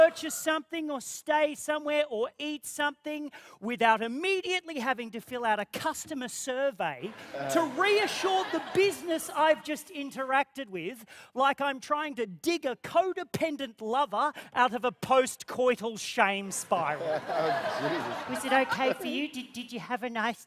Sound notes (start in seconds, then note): 16.9 laughter